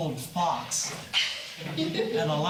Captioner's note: laughs